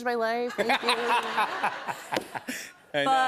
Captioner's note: laughter